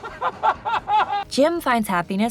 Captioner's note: laughs